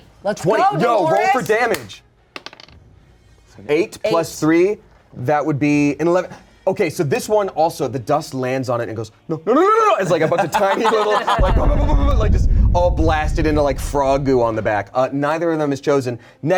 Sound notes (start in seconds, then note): 10.2 players laughing; 11.4 imitates bullets